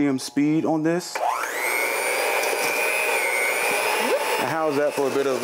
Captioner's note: hand mixer whirring